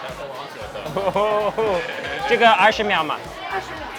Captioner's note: speaks in a foreign language; woman speaks in a foreign language